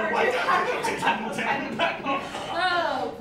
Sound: MAXIM and SARAH stammer, overlap

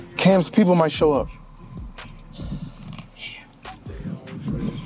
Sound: sighs

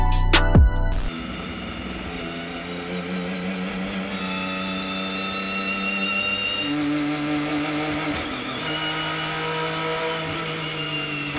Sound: engine Revving

